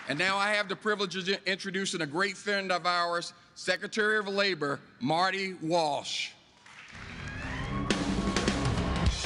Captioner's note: applause